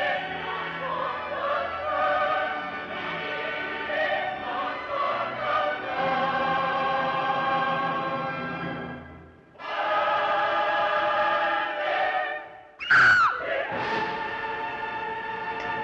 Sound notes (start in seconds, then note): 9.6 intense crescendo; 12.8 Jill screaming